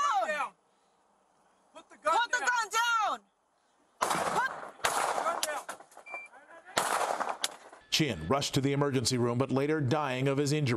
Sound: gunshots

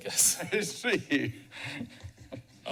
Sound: laughs

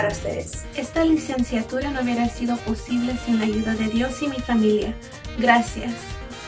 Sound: speaks in foreign language

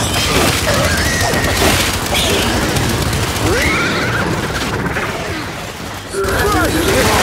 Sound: gunshots

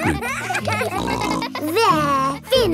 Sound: kids giggling

